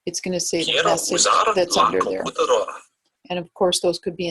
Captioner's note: man speaks in foreign language